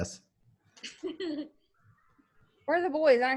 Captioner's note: laughs